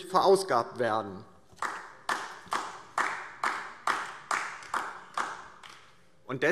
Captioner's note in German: Beifall DIE LINKE